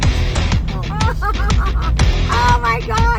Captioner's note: laughing